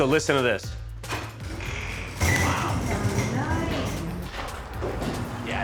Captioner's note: garage door creaks